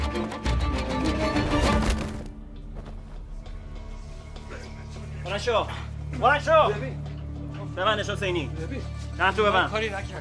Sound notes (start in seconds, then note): 5.5 speaking in foreign language